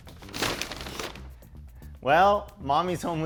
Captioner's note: bags banging on counter